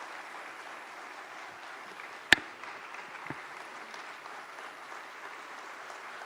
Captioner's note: applause